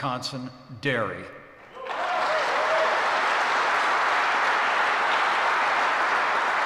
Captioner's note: applause